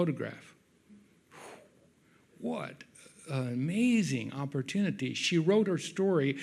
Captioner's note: sighs